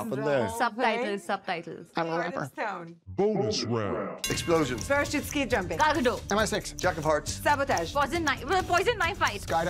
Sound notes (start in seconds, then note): 3.2 voiceover